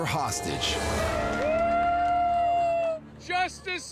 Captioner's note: crowd cheers